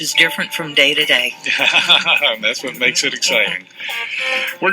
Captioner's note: laughter